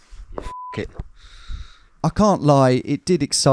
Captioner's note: beep